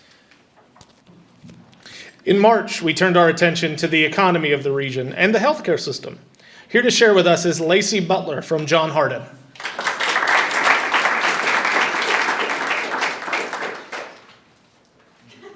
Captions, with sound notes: - In March, we turned our attention to the economy of the region and the healthcare system. Here to share with us is Lacey Butler from John Hardin. (audience applauding)